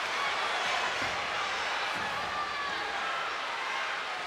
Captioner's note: crowd chattering